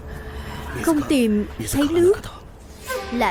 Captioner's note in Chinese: 日语